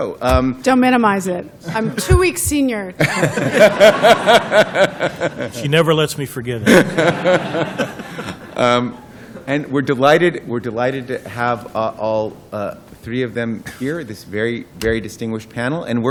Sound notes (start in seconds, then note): 3.0 laughter